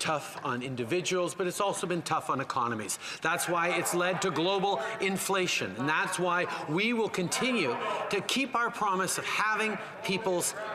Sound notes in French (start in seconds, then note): 4.0 voix de l'interprète